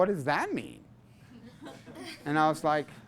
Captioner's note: class laughs